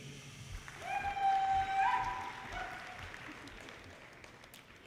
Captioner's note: audience cheers